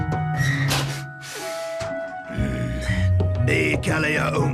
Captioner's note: sniffs